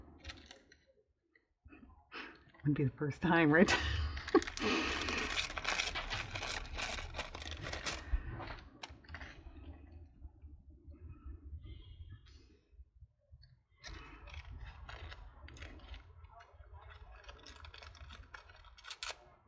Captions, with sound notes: would be the first time right (laughs)